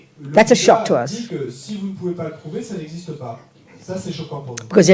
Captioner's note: French